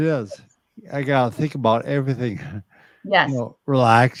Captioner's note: chuckles